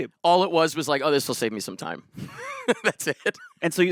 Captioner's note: laughs